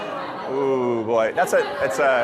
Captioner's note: audience laughing